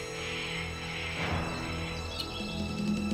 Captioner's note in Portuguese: Canto das araras continua; Tambores